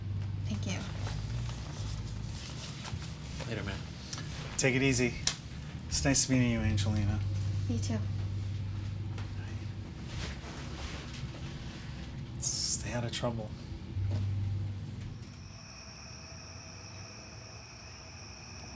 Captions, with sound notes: - Thank you. - Later, man. - Take it easy. It's nice to meeting you, Angelina. - Me too. - Stay outta trouble. (crickets chirp)